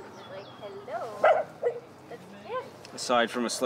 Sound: dog barks

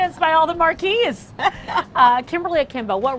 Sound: LaChanze laughs

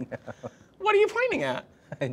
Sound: giggling

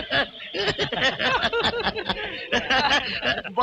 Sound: all Laughing

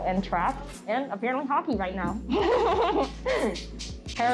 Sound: laughs

